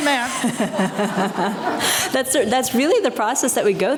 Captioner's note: both laughing